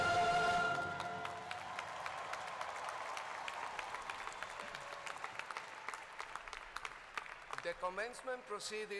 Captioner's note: applause